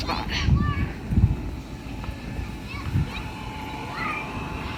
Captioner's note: children yelling